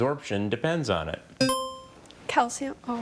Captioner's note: buzzer chiming